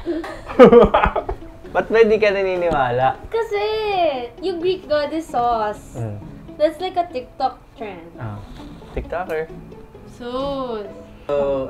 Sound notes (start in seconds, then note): 0.0 laughs